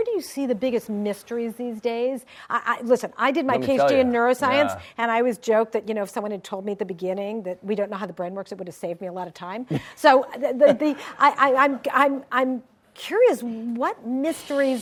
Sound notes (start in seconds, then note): 10.6 David laughs